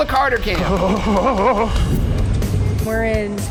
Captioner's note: Shane grunting